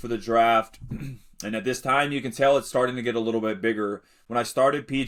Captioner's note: clears throat